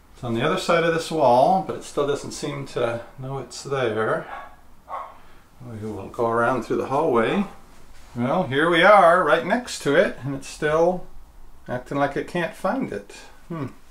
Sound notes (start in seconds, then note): 4.8 dog barking